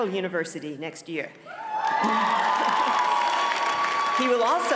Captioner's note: audience cheers and applauds